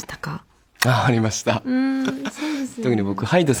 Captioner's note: laughs